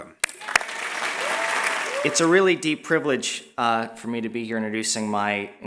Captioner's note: applause